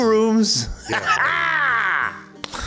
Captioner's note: laughs like he says the words "Jive Turkey" daily